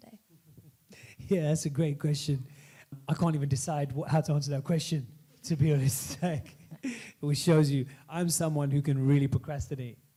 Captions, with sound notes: - Yeah, that's a great question. I can't even decide how to answer that question, to be honest. [laughs] Which shows you I'm someone who can really procrastinate.